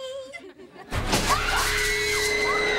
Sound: screaming

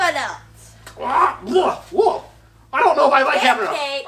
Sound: shark barking

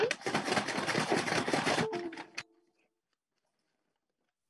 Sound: paper rustling

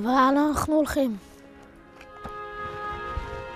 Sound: speaking in Hebrew

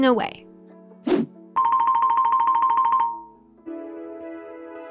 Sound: playful music; air whooshes; soft music

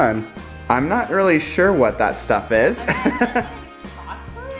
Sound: laughs

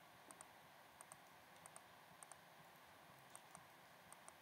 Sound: clicking

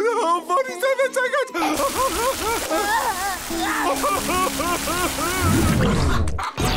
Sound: crying

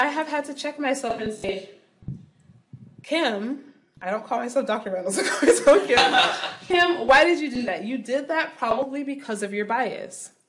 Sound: laughing

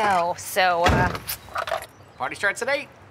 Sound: smacks lips

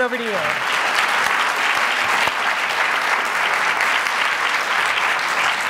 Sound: audience applauding

